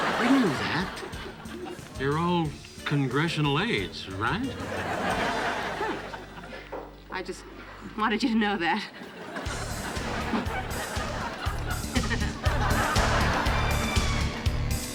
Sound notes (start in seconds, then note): 8.7 audience laughing; 12.1 upbeat music